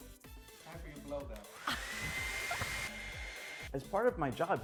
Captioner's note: hair dryer blowing